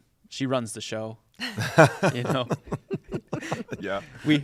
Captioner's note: laughter